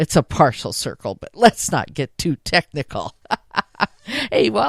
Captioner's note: laughs